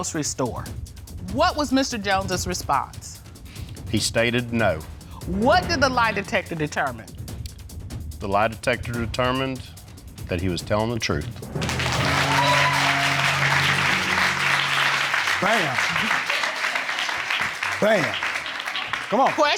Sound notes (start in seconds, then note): 11.5 audience cheering